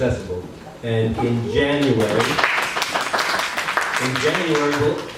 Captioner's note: applause